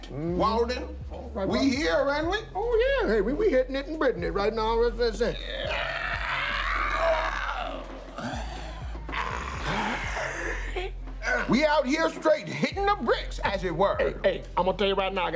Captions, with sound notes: - True that, Walden. - Mm-hmm. - All right. - We here, ain't we? Oh, yeah. Hey, we hittin' it in business right now. [both croak loudly] [both sigh] We out here, straight hitting the bricks, as it were.